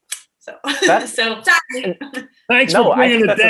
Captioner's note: laughing